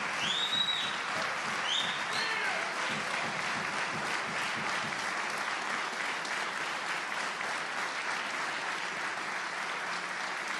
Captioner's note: applause